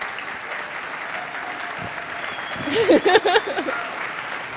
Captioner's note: applause